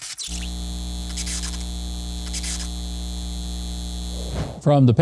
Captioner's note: electricity humming